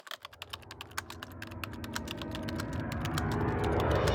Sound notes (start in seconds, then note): 0.0 typing